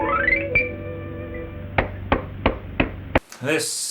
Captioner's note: clapping